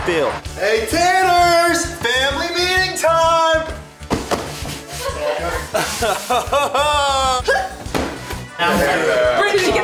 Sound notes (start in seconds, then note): 4.9 laughing